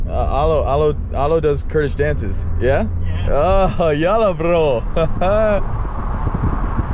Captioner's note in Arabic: كلام بلغة أجنبية